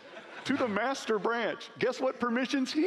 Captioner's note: laughing